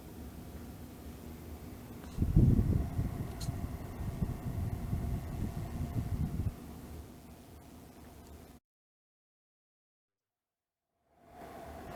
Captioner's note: fan sound